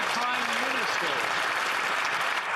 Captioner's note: some Applause